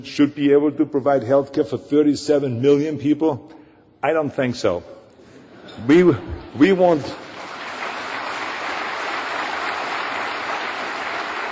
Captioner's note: applause